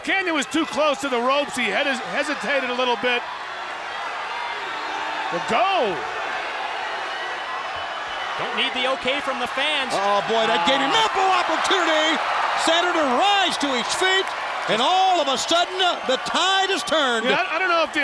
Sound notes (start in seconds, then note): 7.1 crowd cheering